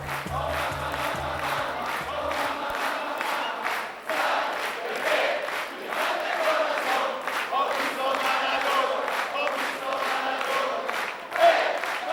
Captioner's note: Applauso